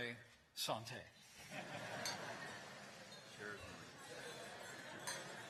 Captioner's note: laughter